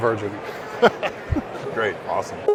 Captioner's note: laughing